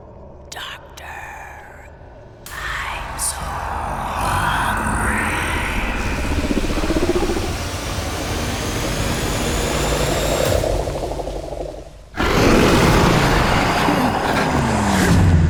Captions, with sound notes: Doctor. I'm so hungry. [Deep growl] [Monstrous roar]